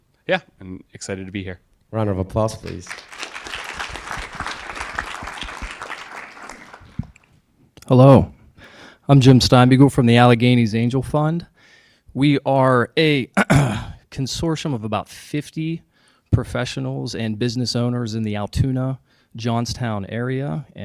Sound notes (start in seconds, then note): 4.5 audience applauding; 13.4 clears throat